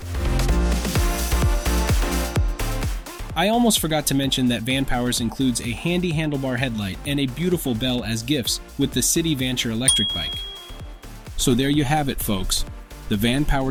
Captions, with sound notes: [Upbeat Music] I almost forgot to mention that Vanpowers includes a handy handlebar headlight and a beautiful bell as gifts with the City Vanture electric bike [Bell sound] so there you have it, folks - the Vanpowers